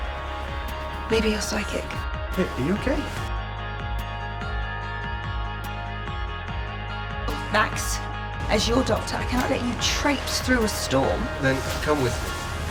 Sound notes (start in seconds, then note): 2.6 voiceover; 7.7 voiceover; 11.5 voiceover